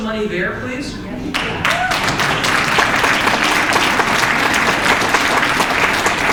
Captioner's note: applause and cheers from crowd